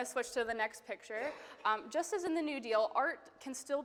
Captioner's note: attendee coughing